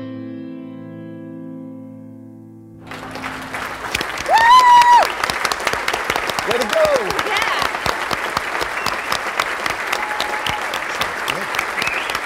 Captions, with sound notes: (audience applauding) (Alex cheering) - Way to go! - Yeah! (people whistling)